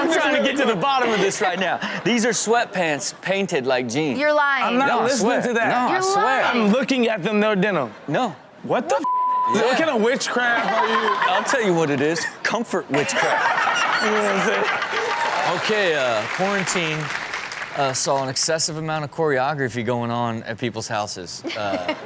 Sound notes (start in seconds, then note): 9.0 beep; 14.0 audience clap